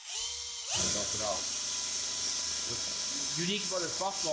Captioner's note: drilling